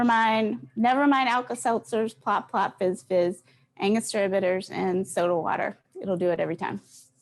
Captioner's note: none